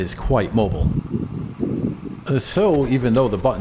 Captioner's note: wind Noise